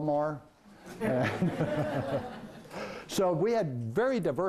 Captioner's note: laughing